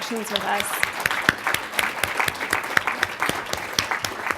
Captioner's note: audience applauds